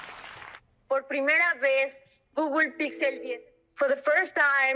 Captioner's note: audience claps; foreign language